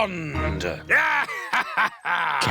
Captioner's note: laughs